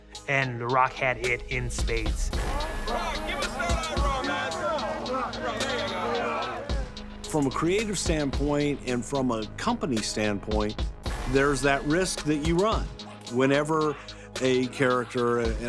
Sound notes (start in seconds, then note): 2.4 paparazzi murmuring; 2.7 dramatic music continues